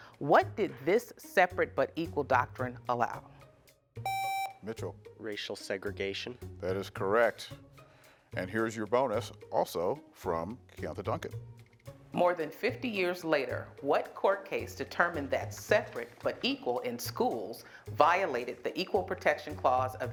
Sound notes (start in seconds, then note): 4.0 buzzer beeps